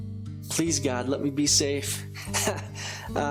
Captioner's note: laughs